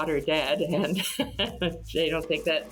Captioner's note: chuckling